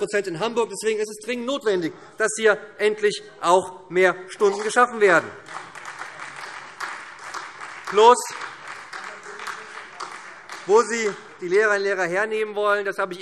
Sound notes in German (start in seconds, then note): 5.6 Beifall SPD